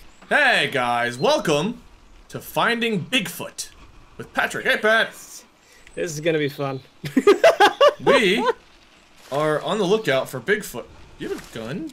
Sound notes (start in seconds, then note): 7.0 laughs